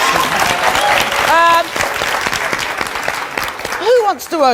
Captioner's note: audience cheers and applauds